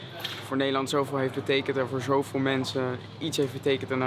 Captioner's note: Dutch spoken audio